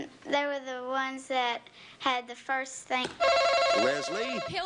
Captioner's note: buzzer buzzes